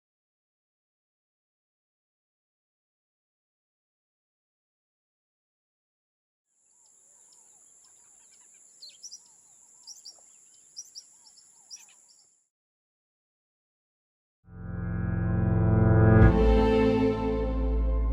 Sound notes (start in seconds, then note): 6.6 insects chittering; 6.8 birds chirping